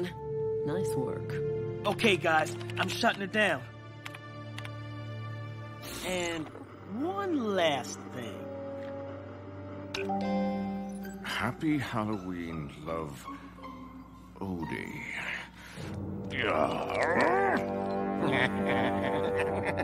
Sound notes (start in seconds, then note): 16.3 grunting; 18.1 laughing